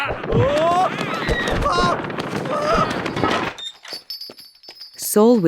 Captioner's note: Saul roaring; man yelping; punches landing; man yelping